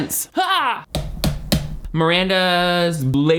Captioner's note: knife tapping